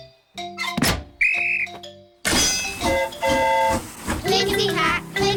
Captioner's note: blows whistle; train horn toots